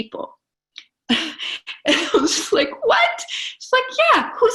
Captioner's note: laughs